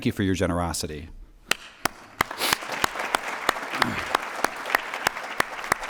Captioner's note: applause